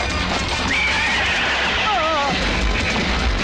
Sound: horse neighing

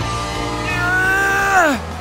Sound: grunting

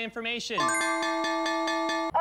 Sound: bell dings

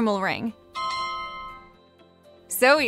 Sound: alarm chiming

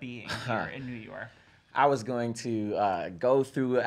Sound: laughs

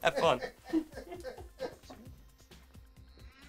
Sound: laugh

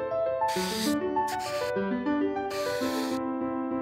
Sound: scraping sounds

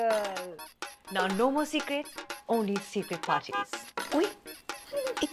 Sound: honking

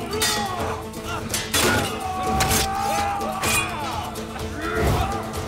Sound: Kılıç sesleri

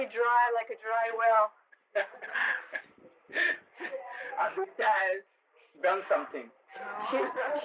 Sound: laughter

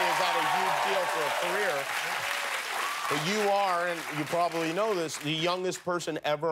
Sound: cheers and applause

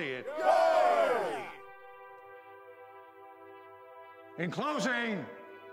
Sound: crowd; cheering

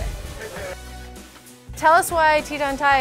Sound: patrons murmuring

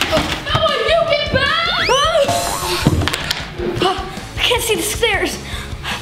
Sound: crashes

